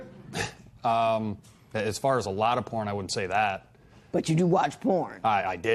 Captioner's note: chuckles